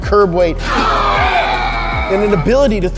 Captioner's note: scream